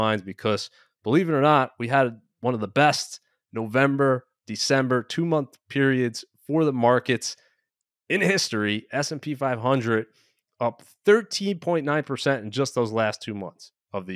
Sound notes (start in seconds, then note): none